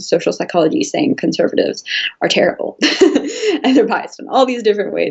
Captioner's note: laughs